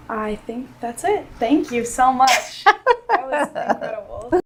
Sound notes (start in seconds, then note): 2.3 laughing